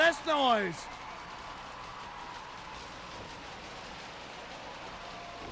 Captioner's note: crowd clapping and cheering